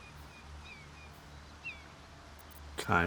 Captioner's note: silence